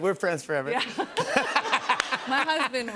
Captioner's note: laughter